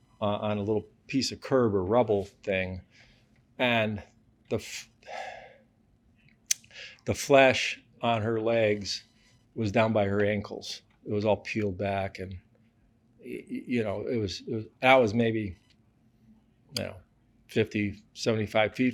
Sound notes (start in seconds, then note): 7.1 sighs